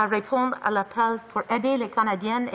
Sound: speaking in French

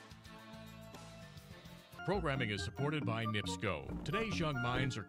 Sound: voiceover

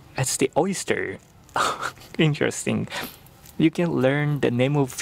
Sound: chuckles

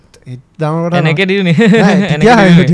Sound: he he he he

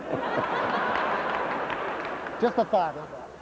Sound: laughter

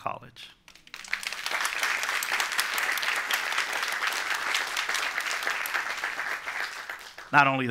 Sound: applause

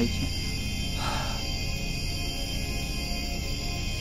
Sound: exhales

